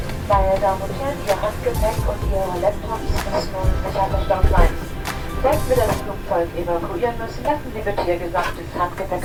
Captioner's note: cabin announcement